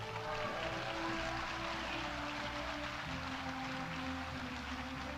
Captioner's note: audience applauding